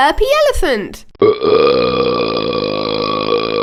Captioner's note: burping